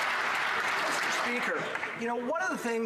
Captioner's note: some Applause